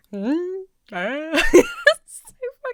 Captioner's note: laughs